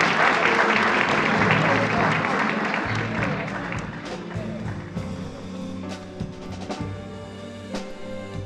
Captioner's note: laughter and applause